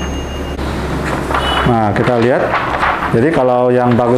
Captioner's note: tinging sound; PET film sound